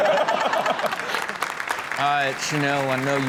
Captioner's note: Chanel laughs; audience applauding